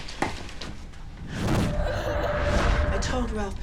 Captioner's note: child crying